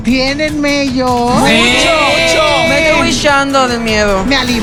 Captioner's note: pissing